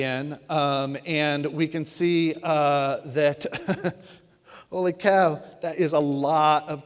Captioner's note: laughs